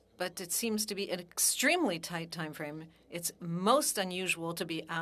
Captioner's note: speaking French